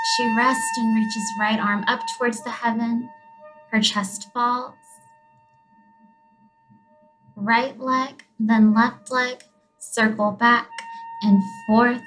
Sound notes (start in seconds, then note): 5.0 gentle whistling; 10.6 high-pitched whistling